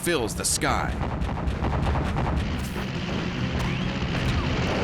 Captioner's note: flak fire